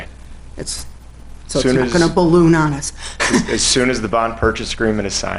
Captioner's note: laughs